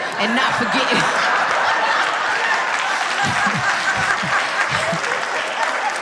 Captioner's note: audience laughing and applauding